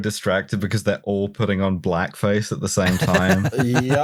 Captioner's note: laughter